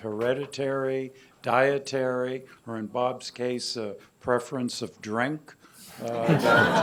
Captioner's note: laughter